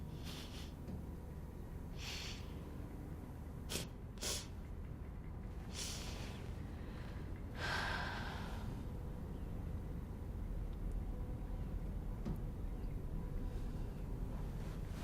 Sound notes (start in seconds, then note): 0.3 exhales; 4.2 sniffles; 7.5 sighs